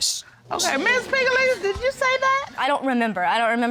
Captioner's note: audience exclaiming